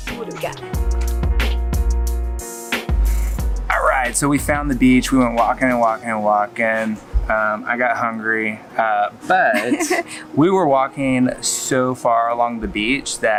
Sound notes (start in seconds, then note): 9.3 laughs